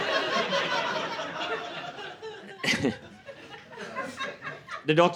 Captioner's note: laughter